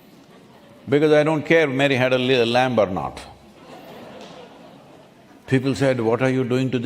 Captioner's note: few laugh; laughter